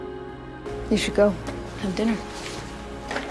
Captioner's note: voiceover